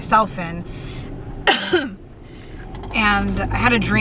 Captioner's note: coughs